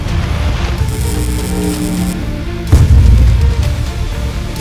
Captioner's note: electrical hum